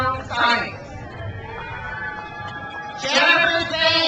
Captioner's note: crowd cheers